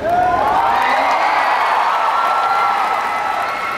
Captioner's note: the audience cheered for her